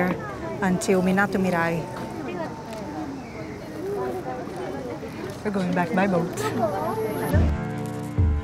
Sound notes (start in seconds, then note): 2.0 indistinct chattering